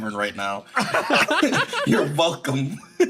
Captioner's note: laughs